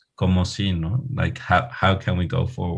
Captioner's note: speaking Spanish